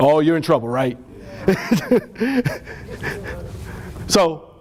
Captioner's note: laughter